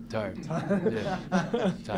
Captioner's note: laughter